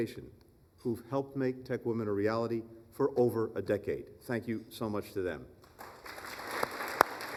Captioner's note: applause